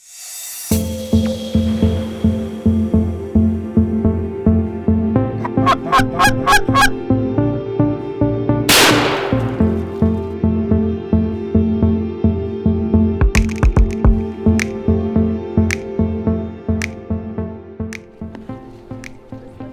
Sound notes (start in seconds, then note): 0.1 bright music; 5.4 goose call honking; 8.7 gun booming